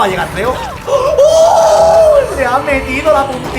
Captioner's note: "Uh"s in Spanish